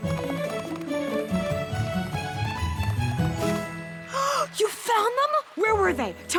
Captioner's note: gasp